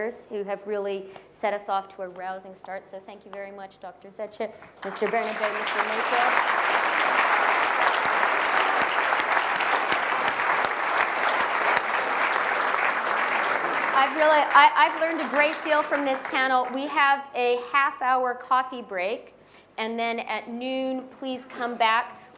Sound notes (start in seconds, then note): 4.6 applause